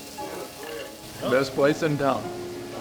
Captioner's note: food sizzling